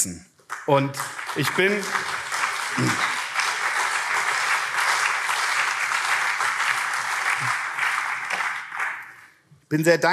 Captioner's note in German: Beifall CDU und SPD